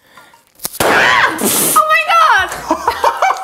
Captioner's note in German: Lauter Knall, heiteres Lachen